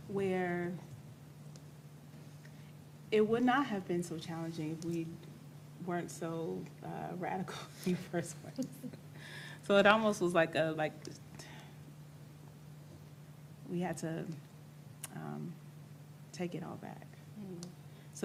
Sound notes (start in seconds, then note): 8.5 chuckles